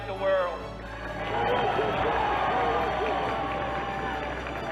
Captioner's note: applause